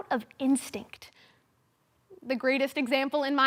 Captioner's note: silence